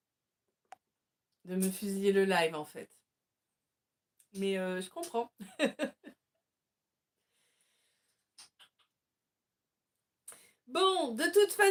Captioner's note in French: rires